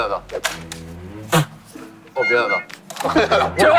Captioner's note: ahem